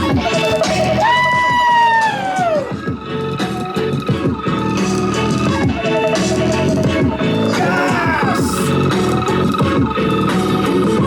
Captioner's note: screams